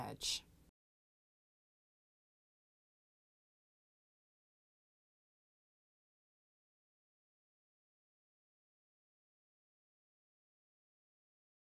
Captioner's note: no Sound Present